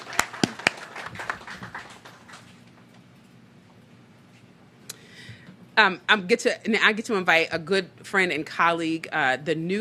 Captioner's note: applause